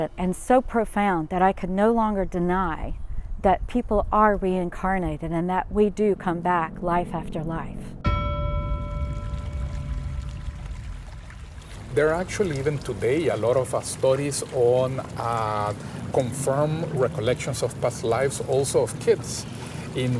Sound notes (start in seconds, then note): 8.0 bell chiming